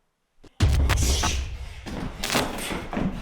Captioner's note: static crackles; feet stomping